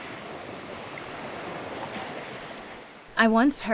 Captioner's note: waves crashing